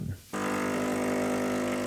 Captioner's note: loud buzzing